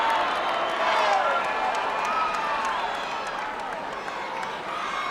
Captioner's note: crowd applauds